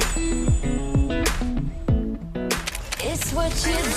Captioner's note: heartbeats